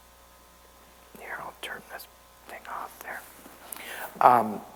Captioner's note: whispers